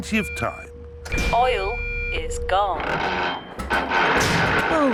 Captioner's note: creaking